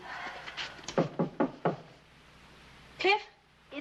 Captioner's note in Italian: bussa alla porta